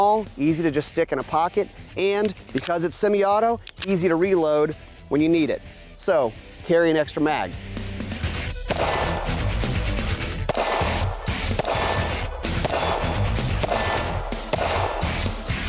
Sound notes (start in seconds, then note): 7.9 hard rock music; 8.6 gunshots